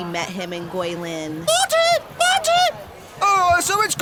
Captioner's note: in high pitched voice